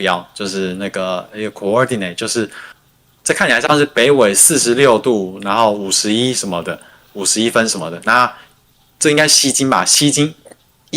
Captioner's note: non-english speech